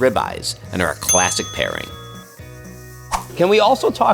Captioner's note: bell rings